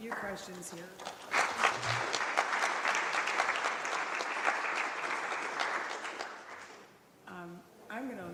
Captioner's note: applause